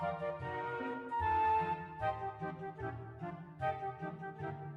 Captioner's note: horn